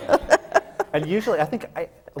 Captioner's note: laughs